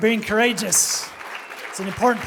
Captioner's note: applause